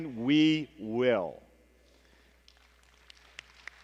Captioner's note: applause